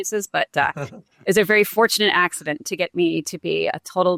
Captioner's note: chuckles